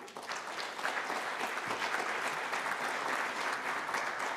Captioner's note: applause